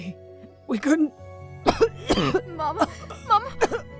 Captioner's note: coughing aggresively